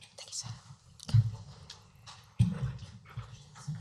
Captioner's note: whispering